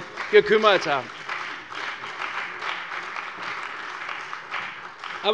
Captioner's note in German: Beifall bei der CDU und dem BÜNDNIS 90/DIE GRÜNEN